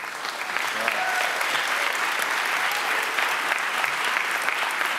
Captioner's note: audience cheers